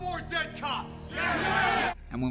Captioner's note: cheering